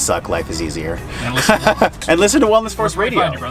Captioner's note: laughs